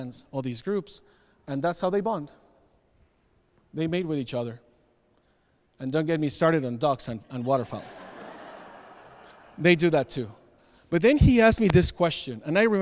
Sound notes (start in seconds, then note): 7.3 audience laughs